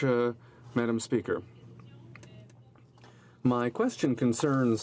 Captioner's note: speaking french